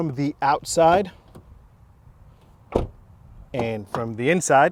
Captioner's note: door closing